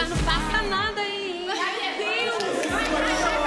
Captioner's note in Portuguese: falatório